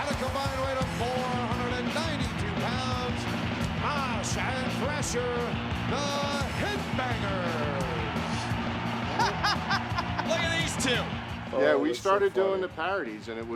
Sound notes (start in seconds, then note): 9.0 commentators laugh